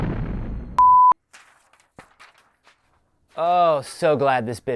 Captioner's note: rumbling; papers fluttering